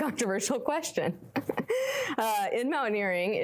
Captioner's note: laughing